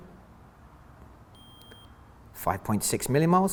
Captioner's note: beep